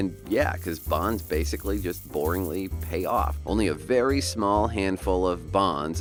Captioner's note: pennies drop